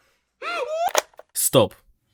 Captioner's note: click